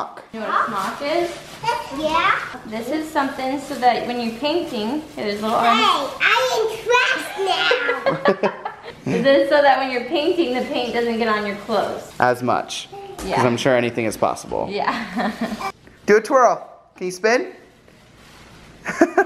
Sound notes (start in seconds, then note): 7.8 laughter; 14.9 laughter; 18.8 laughter